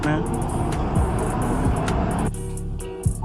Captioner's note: noisy city